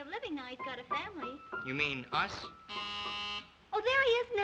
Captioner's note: doorbell buzzes